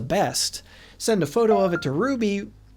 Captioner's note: text Message Ding